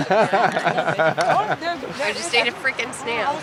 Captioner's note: laughter